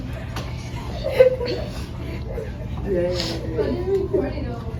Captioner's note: laughing and sniffing